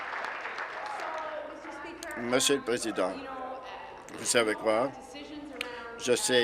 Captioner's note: applause